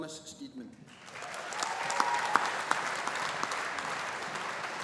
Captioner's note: audience applauding